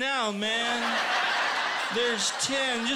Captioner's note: laughter